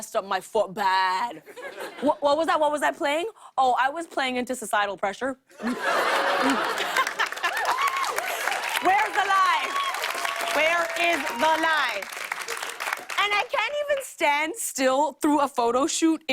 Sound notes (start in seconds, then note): 5.6 laughter and applause